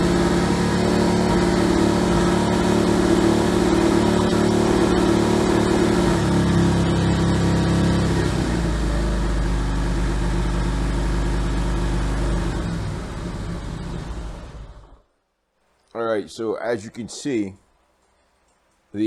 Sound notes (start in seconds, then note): 0.0 running engine at high idle; 12.0 engine back at idle; 14.4 engine off